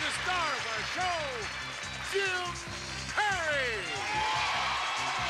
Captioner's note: audience cheering